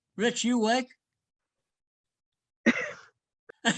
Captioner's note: laughs